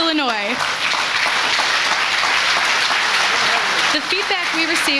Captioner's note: audience applauds